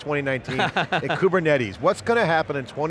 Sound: chuckling

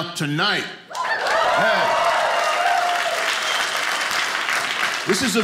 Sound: audience applauding

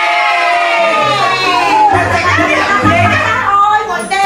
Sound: cheer

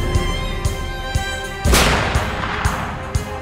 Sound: gun shot

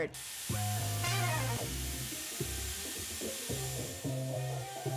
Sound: hair tool whooshing

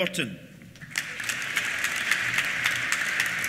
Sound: applause

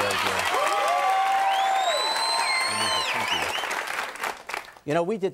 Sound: audience cheering and applauding

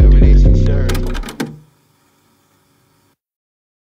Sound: electronic mechanical noise

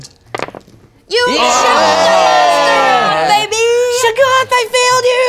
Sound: cheeering

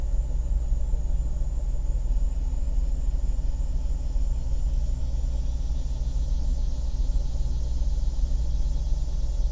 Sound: cicadas chittering

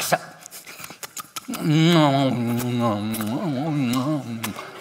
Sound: pastor smacks lips again

